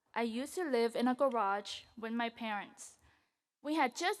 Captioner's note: none